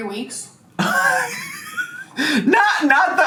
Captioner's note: laughs